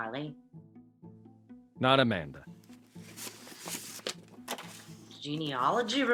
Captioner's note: paper rustling